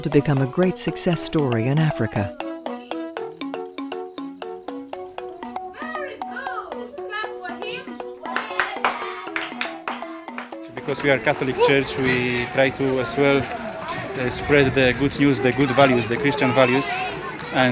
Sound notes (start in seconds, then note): 10.2 clapping